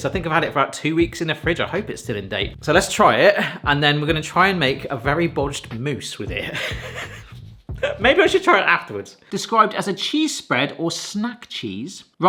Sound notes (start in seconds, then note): 6.4 laughs